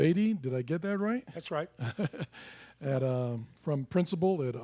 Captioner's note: laughs